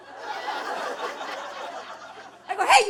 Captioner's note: audience laughing